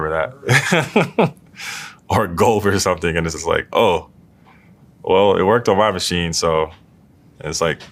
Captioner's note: laugh